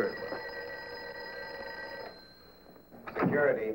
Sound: phone ringing

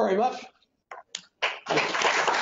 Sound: applause

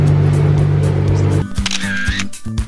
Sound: murmurs

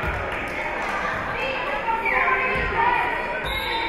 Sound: spectators shouting encouragements; whistle being blown

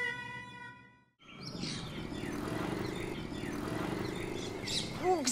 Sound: birds chirping

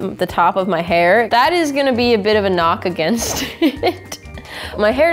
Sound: laughing

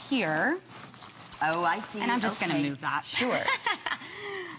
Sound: laughter

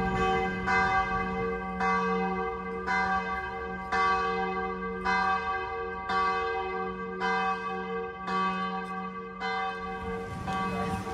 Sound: church bells

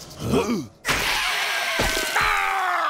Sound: screeching; screaming

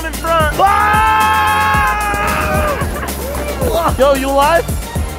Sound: both scream and laugh

